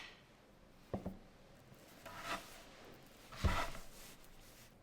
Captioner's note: dough cutting